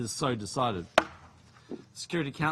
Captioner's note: gavel taps